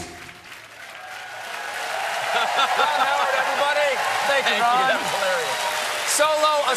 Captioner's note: cheers and applause